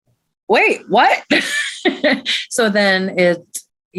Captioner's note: chuckles